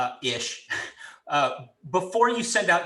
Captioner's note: giggles